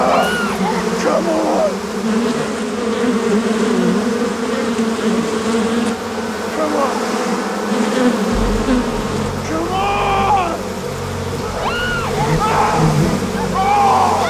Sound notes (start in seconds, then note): 11.4 cris fort